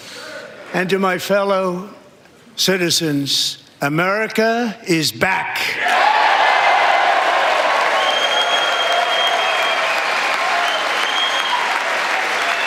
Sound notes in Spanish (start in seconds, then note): 4.3 aplausos